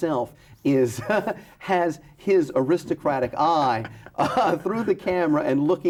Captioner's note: laughs